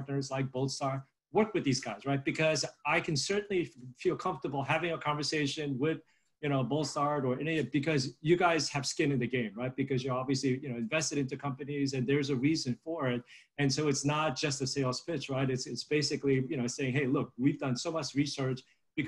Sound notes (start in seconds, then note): none